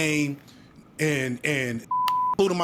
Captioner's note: beep